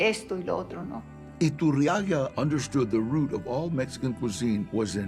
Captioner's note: in English